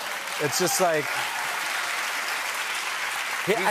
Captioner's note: cheers and applause